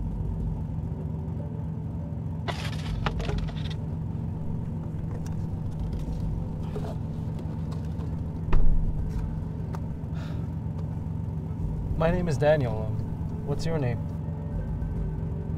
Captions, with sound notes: (cups clattering) (door slamming) My name is Daniel. What's your name?